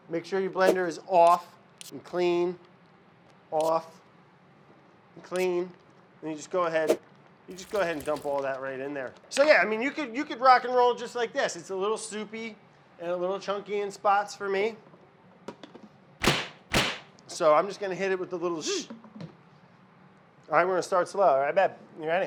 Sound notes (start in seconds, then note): 16.3 hand smacks blender lid